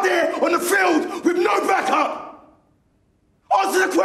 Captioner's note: none